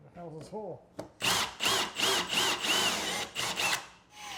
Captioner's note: drill whirs